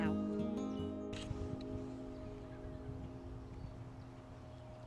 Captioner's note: shutter snaps